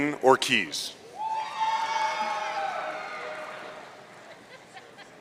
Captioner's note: audience cheering